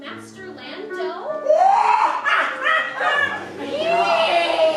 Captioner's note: cackling in an ominous and equally obnoxious matter